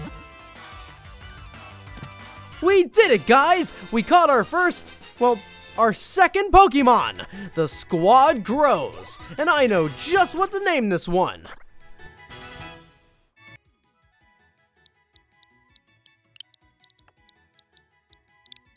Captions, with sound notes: We did it guys! We caught our first, well, our second Pokemon! The squad grows, and I know just what to name this one. (letters clicking)